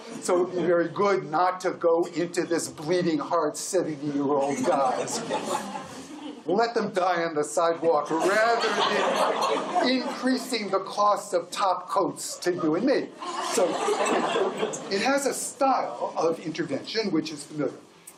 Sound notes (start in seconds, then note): 7.9 laughter